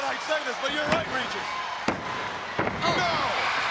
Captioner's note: referee slapping